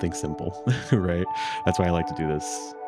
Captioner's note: laughs